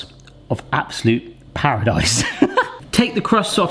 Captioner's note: laughs